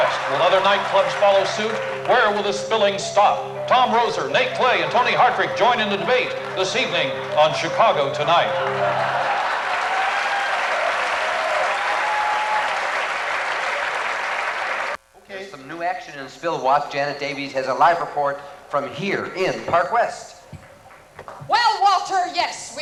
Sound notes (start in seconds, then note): 11.0 applause